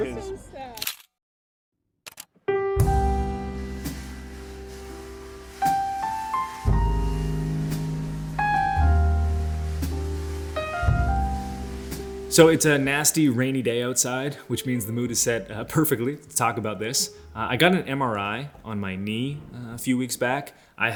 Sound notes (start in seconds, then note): 0.8 camera clicking; 1.4 soft gentle music